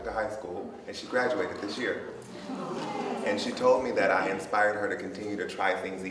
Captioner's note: audience oohs